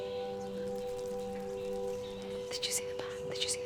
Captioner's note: wings flapping